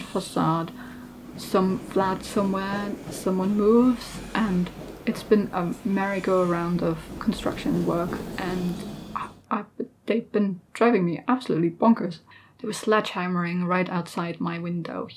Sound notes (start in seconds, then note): 0.7 hammering; 7.9 more hammering